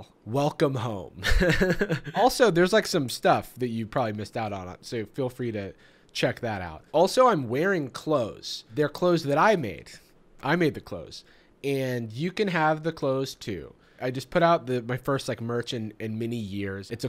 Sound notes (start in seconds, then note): 1.2 laughs